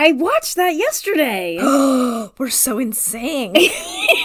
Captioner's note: gasps; laughs